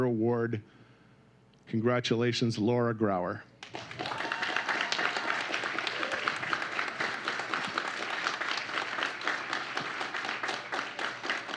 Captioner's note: applause